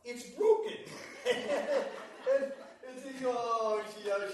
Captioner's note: laughter